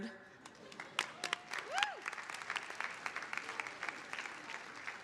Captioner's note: audience applauding